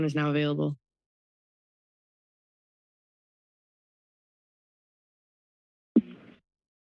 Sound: silence

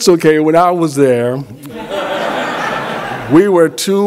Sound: laughter

